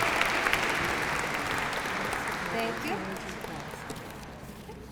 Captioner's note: applause